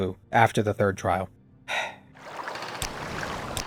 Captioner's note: sigh